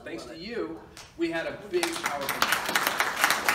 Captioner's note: crowd clapping drowns out speaker